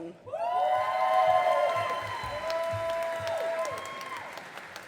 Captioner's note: audience applauding